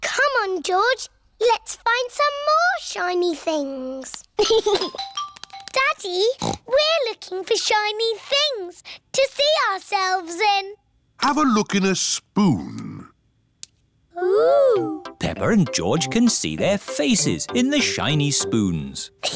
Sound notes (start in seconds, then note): 4.4 giggles; 6.4 snorts